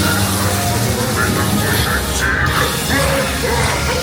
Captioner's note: lasers blasting